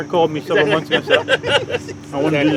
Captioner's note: people laughing